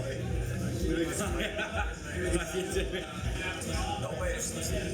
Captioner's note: laughs